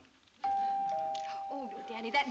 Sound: doorbell

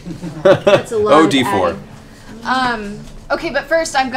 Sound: laughs

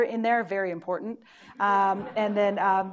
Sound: audience laughing

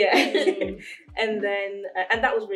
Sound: laughs

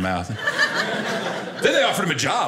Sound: audience laughing

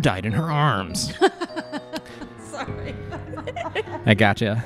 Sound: keeps laughing; laughs

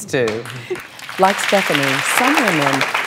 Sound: audience applauds

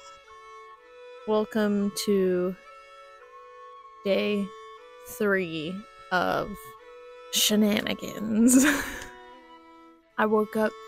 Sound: laughter

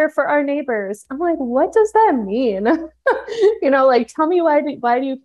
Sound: laughs

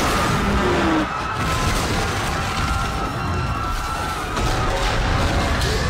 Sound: explosions and screaming

